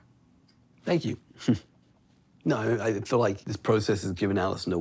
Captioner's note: chuckles